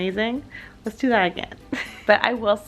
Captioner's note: laughs